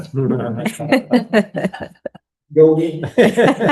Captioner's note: laughter